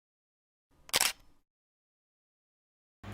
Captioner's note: camera click